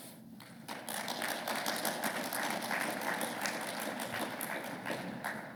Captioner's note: audience applauding